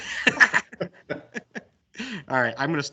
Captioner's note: multiple laughter